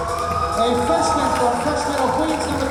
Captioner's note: cheering; clapping